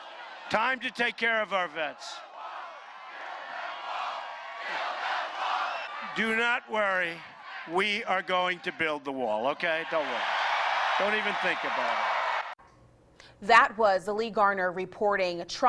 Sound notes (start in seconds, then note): 5.1 build a wall chant